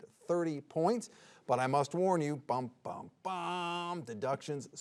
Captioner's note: mimics dramatic music